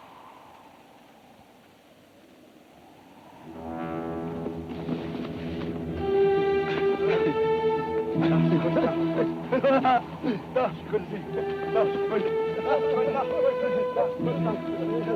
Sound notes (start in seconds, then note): 3.9 tense music; 4.9 Apaches chatter